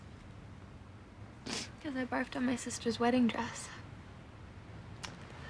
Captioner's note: sniffles